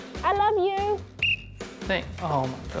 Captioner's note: blows whistle